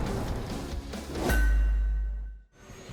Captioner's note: clank; dramatic music playing